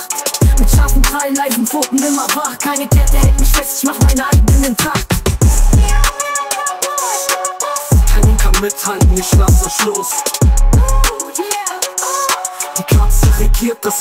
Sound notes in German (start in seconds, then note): 4.4 Record scratch; 8.5 Record scratch